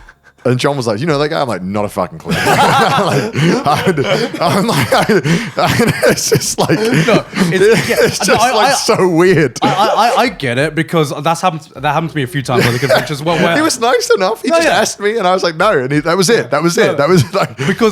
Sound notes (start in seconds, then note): 2.2 all laughing